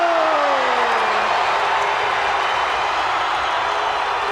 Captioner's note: crowd cheer